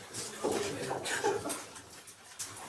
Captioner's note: laughs